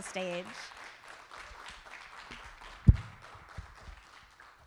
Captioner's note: audience applauding